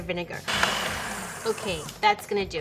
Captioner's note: food processor slowing down